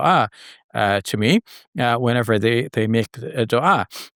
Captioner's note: foreign language; foreign language